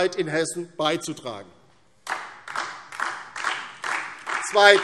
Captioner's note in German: Beifall DIE LINKE und SPD